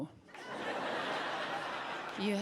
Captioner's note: audience laughs